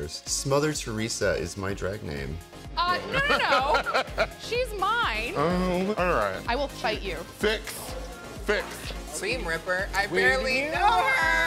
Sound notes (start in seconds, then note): 2.9 laughing